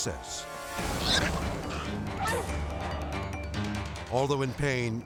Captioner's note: dramatic music; boar squealing